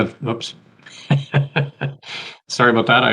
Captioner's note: laughs